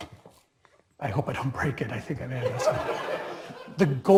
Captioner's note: laugh